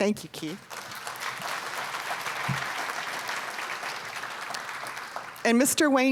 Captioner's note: applause